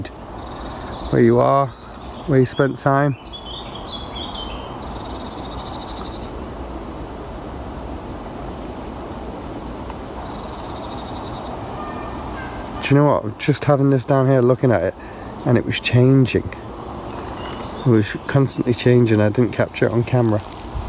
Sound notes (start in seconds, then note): 0.0 birds chirping; 16.7 birds chirping